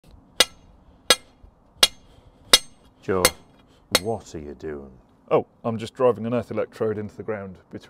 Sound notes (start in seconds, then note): 0.4 hammer ringing